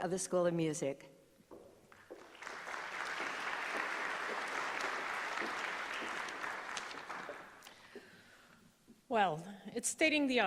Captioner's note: applause